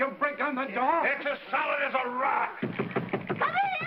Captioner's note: rapping on door